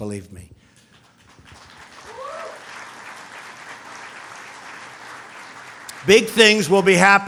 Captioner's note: applause